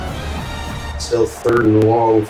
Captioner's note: crowd Noises